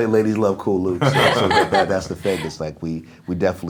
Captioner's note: laughing